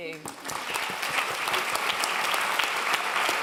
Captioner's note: clapping